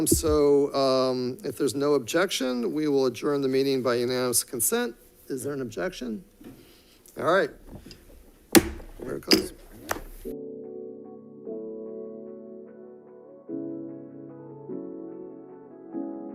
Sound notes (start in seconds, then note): 7.5 gavel bangs; 11.9 soft music